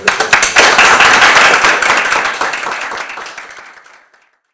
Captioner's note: audience applauds